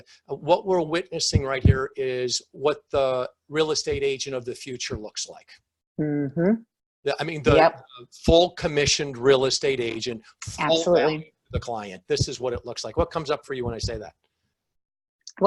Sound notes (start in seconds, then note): 10.5 speaking faintly